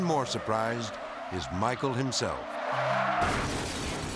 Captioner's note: car skidding; car crashing